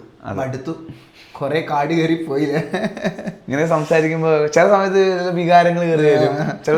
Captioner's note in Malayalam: പൊട്ടിച്ചിരി